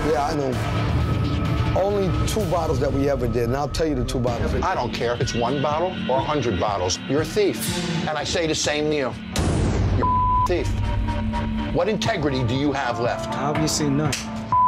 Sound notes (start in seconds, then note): 10.0 beep